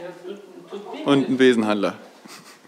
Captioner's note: chuckles